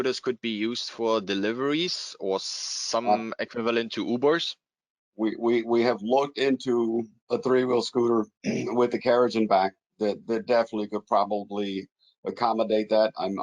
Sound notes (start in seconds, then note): 8.4 clears throat